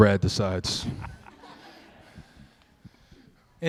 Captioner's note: laughter